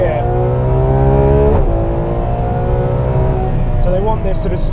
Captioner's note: revving intensifies